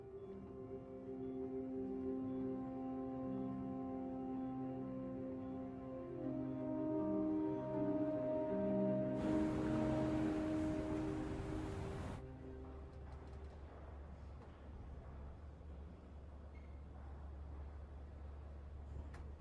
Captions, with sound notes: I mean, the mother's just killing herself with guilt. You think she might want to do something about it? (elevator bell dings) I think I have something. Okay, every country, with the exception of New Zealand, pulled out of talks because of the lie that migrants